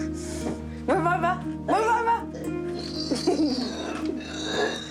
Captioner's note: laughs